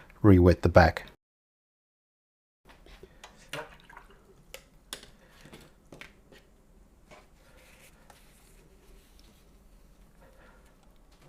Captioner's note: silence